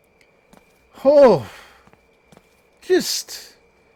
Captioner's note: exhales